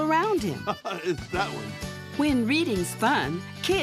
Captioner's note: laughs